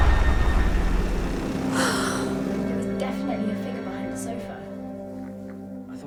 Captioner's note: car driving up; sighing